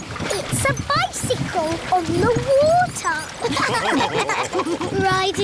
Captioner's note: all laughing